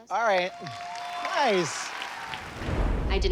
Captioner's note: cheering